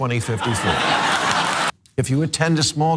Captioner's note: laugh